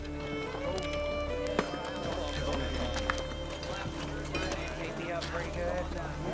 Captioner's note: chatter